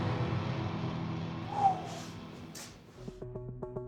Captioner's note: exhales